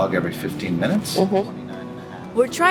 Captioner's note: background chatter